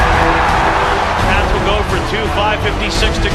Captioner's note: crowd cheering